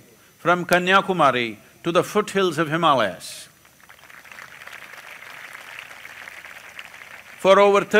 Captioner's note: applause